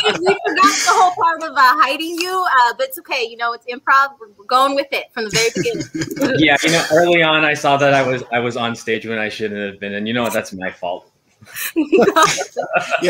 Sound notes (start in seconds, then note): 0.0 all laughing; 5.3 laughing; 11.6 all laughing